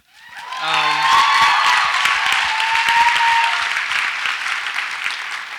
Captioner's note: audience applauds and cheers